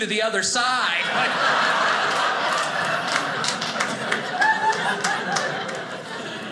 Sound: audience laughing

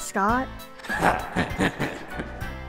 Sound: evil chuckling

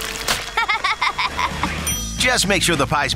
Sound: laughing

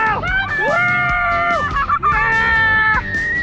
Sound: both screaming

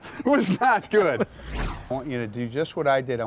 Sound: dramatic transition noises

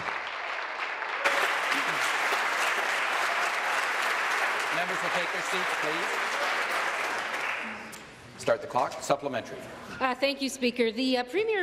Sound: applause

